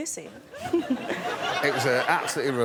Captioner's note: chuckles